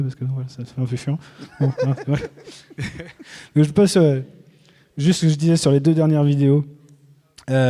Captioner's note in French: rires